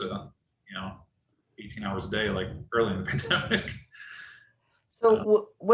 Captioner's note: laughs